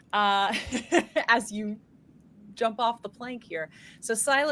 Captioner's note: laughs